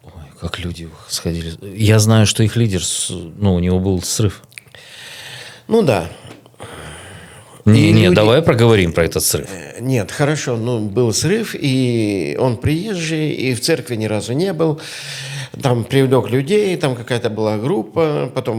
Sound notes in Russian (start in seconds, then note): 6.2 вздыхает